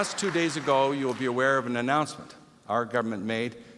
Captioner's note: applause